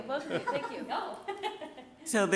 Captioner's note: people laughing